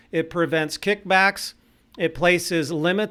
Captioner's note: none